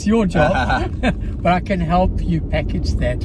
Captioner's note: men laughing